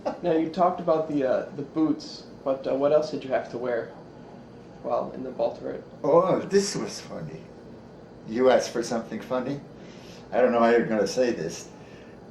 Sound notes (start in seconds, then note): 1.1 laughs